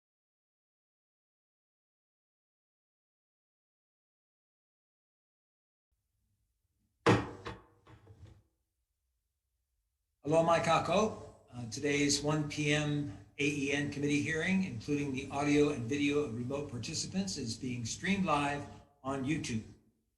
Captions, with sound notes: (sharp thump) - Aloha mai kakou. Today's 1:00 PM AEN committee hearing, including the audio and video of remote participants is being streamed live on YouTube.